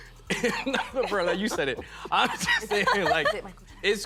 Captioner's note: laughing